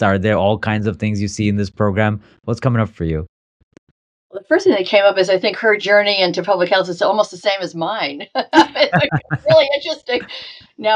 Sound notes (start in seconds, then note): 8.4 laughing